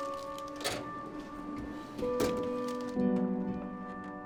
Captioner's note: drawer rattling; expressive piano over uneasy electronic music